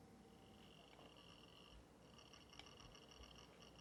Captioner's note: computer whirring